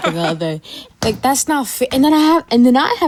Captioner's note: laughing